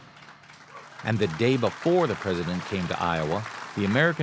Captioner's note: applause